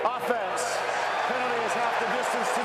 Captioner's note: cheering